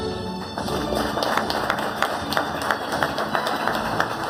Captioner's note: audience applauding